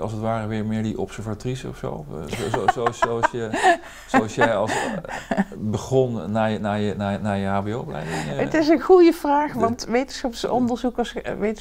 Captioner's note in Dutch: Lacht